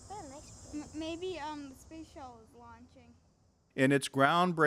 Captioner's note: children conversing